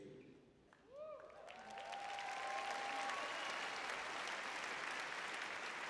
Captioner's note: cheering; applauding